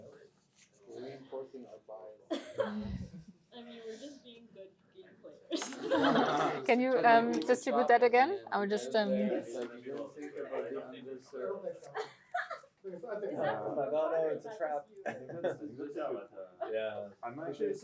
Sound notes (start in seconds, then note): 5.5 laughter